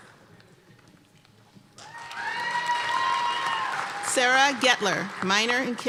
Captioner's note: applause and cheering